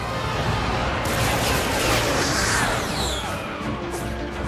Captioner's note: gunfire